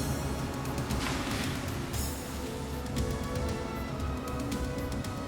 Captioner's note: water splashing